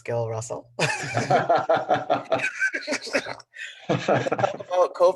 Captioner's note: laughter